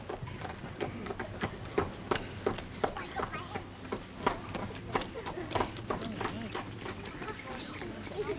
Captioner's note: sound of children's voices; hooves clop; sound of children's voices